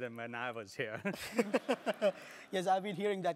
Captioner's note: laugh